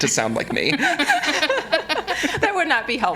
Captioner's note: all laughing